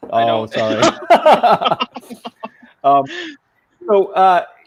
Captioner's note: laughing